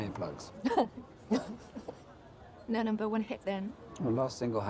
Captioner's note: laughter